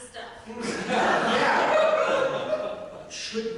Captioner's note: audience laughter